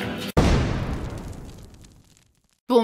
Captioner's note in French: Bruit d'explosion